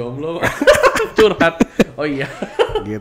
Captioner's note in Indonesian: ketawa